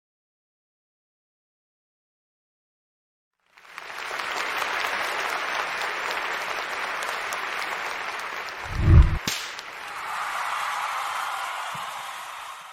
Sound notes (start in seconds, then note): 3.5 applause; 8.6 audio logo